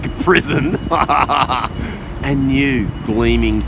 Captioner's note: laughs